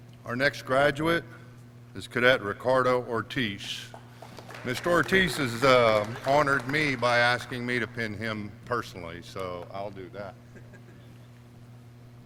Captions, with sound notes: Our next graduate is Cadet Ricardo Ortiz. (clapping) Mr. Ortiz has honored me by asking me to pin him personally, so I'll do that.